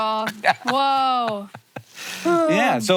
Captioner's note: sighs